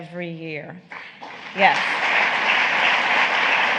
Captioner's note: applause